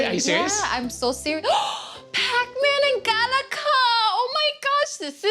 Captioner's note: gasps